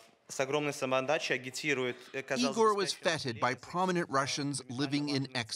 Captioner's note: speaking russian